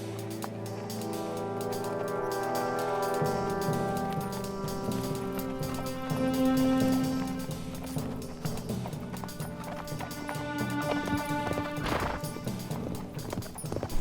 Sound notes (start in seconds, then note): 4.2 stage coach approaching; 12.3 horse blows